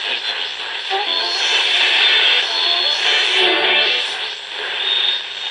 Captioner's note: garbled radio tuning